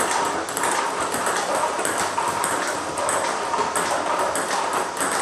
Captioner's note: ball ping pong hitting continues